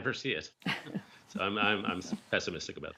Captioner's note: laughter